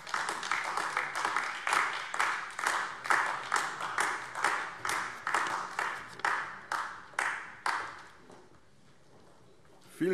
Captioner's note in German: Beifall AfD